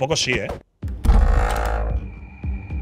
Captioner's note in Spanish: Puerta abriéndose